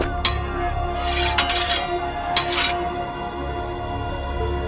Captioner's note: sword fighting